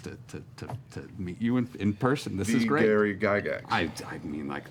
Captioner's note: none